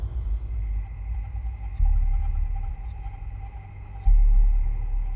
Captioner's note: insects chirring